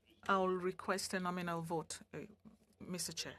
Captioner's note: speaking French